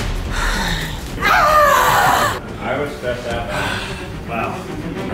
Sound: sigh; gasps

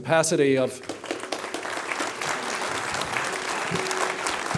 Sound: applause

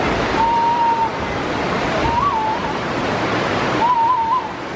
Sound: whistles

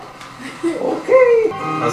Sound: laughing

